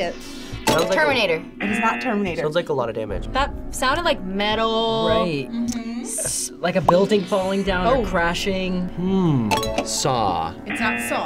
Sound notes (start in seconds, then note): 0.9 bell dings; 1.6 klaxon sounds; 9.5 bell dings